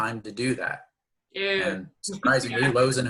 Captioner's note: laughs